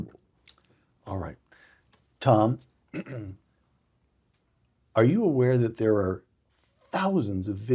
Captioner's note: cough